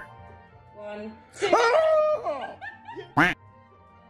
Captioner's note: screaming